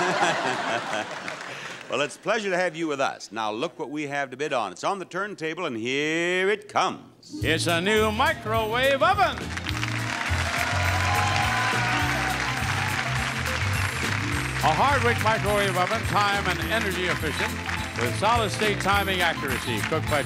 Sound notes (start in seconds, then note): 0.0 audience laughing; 10.0 audience applauding